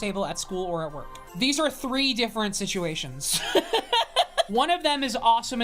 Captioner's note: laughs